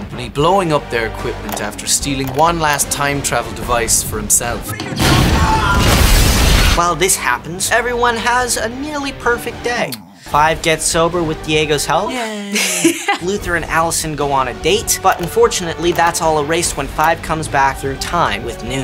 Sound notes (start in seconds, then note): 4.7 explosion